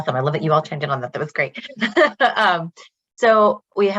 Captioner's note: laughs